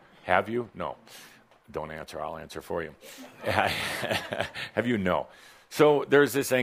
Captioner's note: chuckles